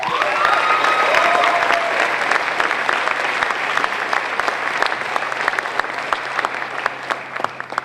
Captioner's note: applause